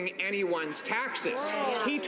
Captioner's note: some Applause